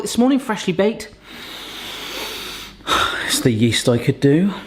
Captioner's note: sniffing